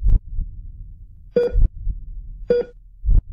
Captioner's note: machine beep